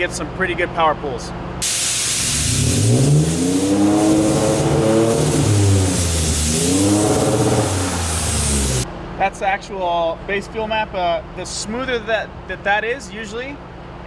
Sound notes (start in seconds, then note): 1.6 car engine revving